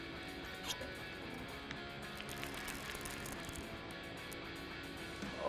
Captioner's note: optimistic music; fishing rod reeling